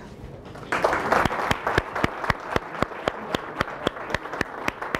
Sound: attendees applauding

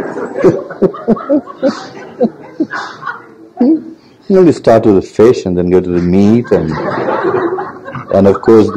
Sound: laughs; general laughter

